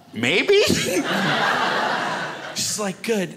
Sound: crowd laughs

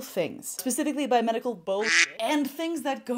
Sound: duck quacks

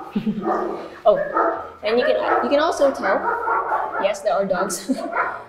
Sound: dogs barking

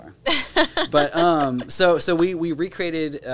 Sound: laughing

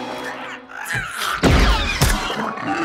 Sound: lasers firing; growls

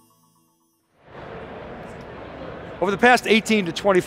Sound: crowd chattering

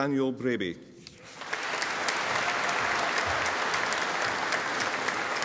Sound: audience applauding

